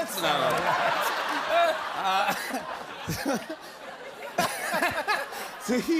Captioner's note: laughter